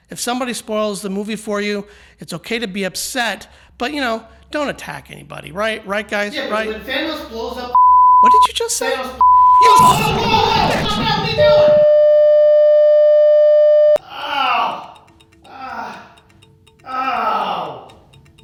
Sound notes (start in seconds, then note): 7.7 beep; 11.8 high pitched tone